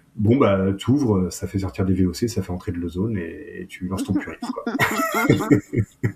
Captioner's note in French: rires